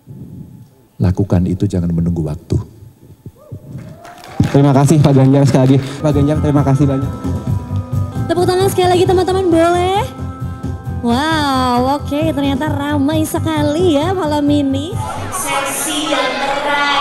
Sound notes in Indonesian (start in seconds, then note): 3.8 tepuk tangan